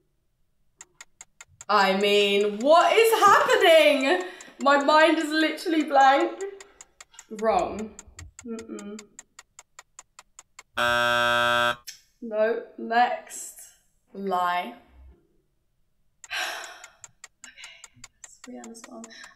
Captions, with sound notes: I mean, what is happening? My mind is literally blank. Wrong. (buzzer beeping) Nope, next. Lie. (sighing) Okay. This is a Rihanna song.